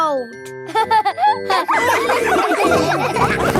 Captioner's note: all laughing